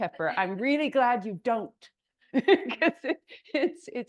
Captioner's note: laughs